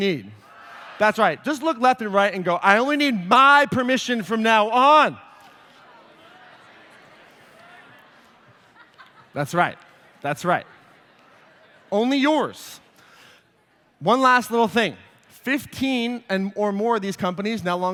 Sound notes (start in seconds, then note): 5.9 audience mumbles response; 6.6 laughter